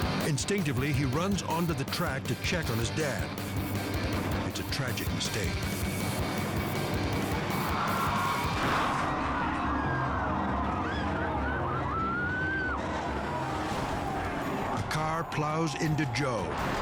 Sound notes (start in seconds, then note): 0.0 energetic music; 7.2 tires screech; 8.7 spectators scream